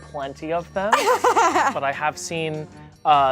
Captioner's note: laughs